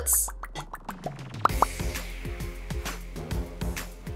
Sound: popping

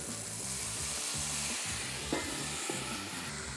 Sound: pan sizzles

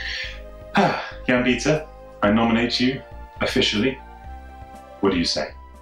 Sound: sighs

